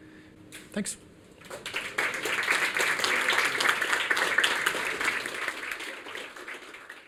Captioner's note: applause